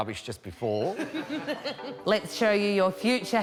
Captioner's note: laughing